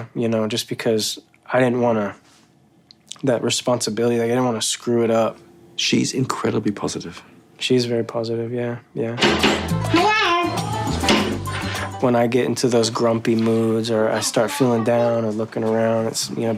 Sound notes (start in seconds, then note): 9.2 knocking